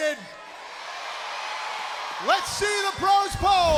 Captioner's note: crowd cheering